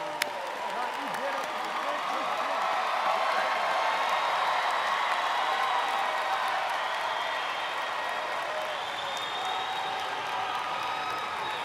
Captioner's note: cheers/applause